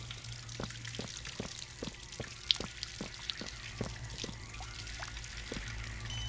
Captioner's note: footsteps